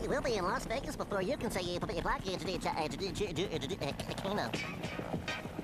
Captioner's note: stuttering